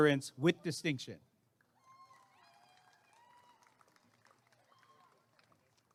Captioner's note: applause and cheering